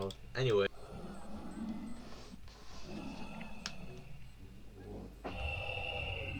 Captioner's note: vc noises from the lobby